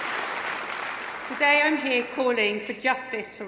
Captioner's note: applause